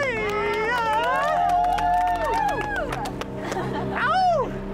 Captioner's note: all cheering